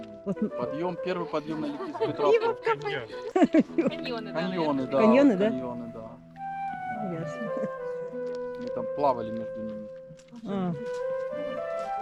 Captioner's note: laughter